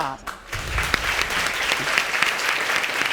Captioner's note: applause